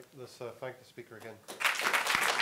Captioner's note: applause